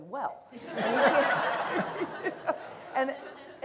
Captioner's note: laughter